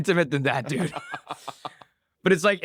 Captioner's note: laughs